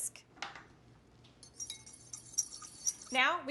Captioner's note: fork scraping bowl